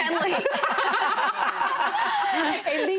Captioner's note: hosts laughing